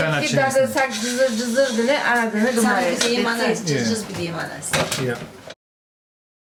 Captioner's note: sizzling